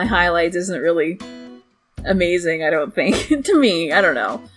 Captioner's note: laughs